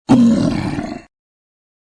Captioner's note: troll growling